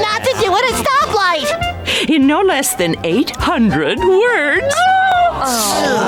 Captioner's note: squealing; groaning